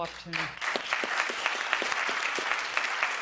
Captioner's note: applause